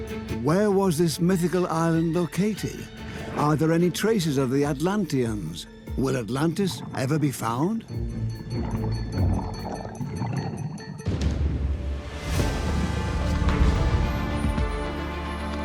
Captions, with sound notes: Where was this mythical island located? Are there any traces of the Atlanteans? Will Atlantis ever be found? (bubbles) (suspenseful music)